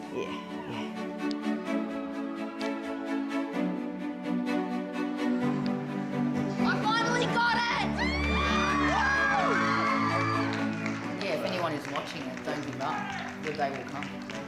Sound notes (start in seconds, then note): 1.1 light music; 7.5 everyone cheering